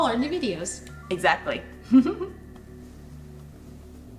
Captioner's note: chuckles